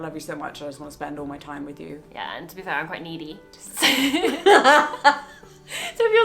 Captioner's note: laugh